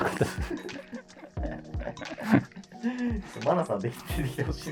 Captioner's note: laughing